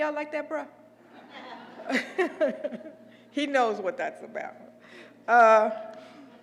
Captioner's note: laugh